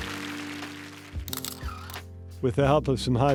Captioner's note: applause